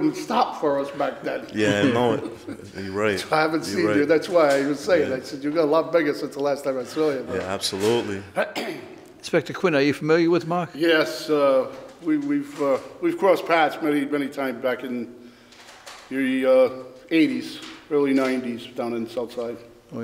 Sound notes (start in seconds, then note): 1.5 giggles